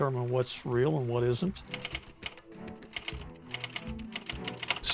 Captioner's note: keyboard keys clacking